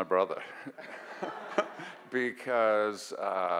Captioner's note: audience laughs